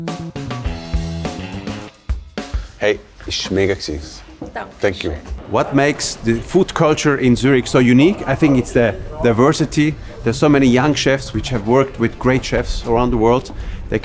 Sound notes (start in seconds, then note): 0.0 upbeat music; 3.1 speaking foreign language